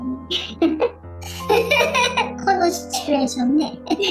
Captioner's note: laughs